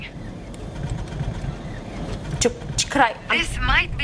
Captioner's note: engine sputters